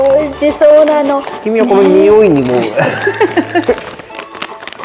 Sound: laughs

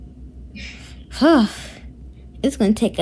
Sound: girl sighs

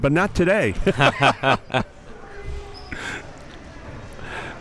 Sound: both laughing

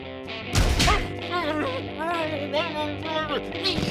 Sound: angry muffled noises

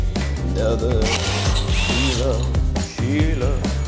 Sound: metal clanging

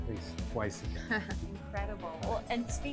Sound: laughing

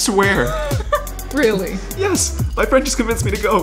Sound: chuckles

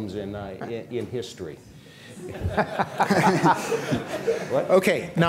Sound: laughter

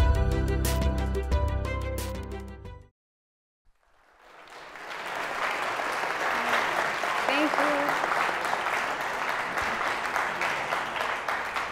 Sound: applause

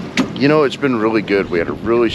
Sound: splashing

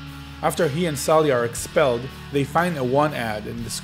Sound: voiceover

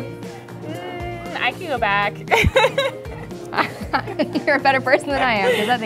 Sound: laughs

